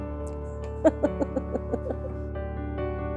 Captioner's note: laughter